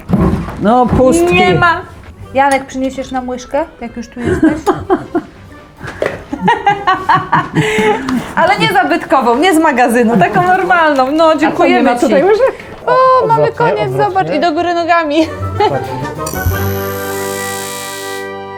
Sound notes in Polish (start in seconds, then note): 6.0 śmiech